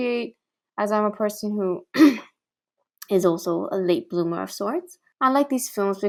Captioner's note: ehem